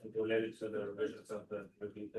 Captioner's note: background chatter